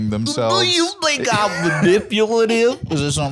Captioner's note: southern accent